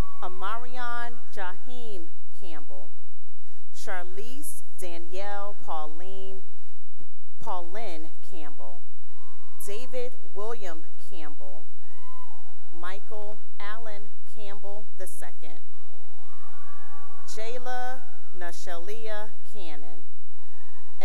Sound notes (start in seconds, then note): 0.0 cheering; 2.7 cheering; 8.2 cheering; 11.8 cheering; 15.1 cheering and applause; 19.9 cheering